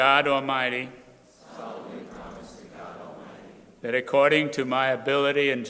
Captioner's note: crowd repeating